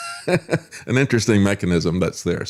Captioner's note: laughs